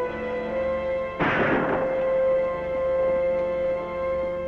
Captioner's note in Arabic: طلقات نارية